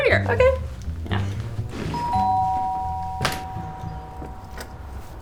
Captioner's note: FX Door Bell